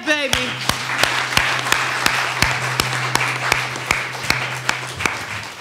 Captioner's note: attendees applauding